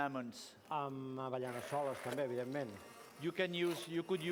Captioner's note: non-english speech